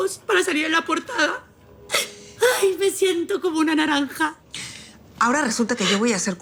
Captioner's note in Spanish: none